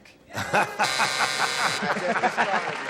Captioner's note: buzzer; applause